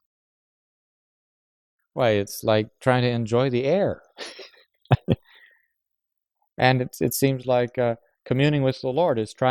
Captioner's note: laughs